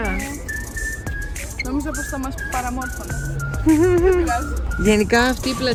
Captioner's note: giggles